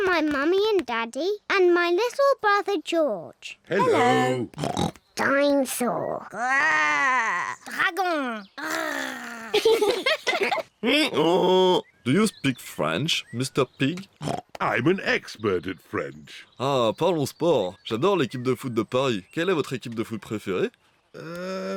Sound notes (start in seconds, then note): 8.6 roars; 9.1 both giggle; 10.8 brays; 16.0 speaks french